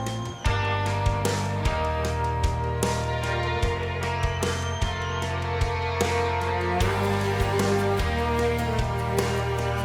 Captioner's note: cheers